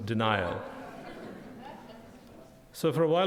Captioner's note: audience laughing